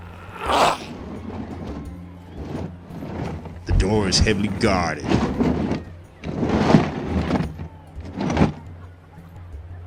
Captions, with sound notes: (grunting) (dragging, sliding) The door is heavily guarded. (sliding, dragging)